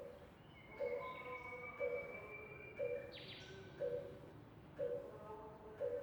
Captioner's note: faint bird tweets